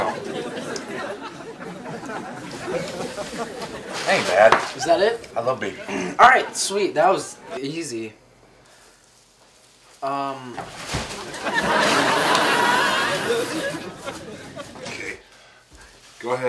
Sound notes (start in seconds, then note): 0.0 audience laughs lightly; 11.1 audience laughs; 11.1 laughs